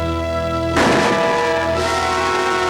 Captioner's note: gun shot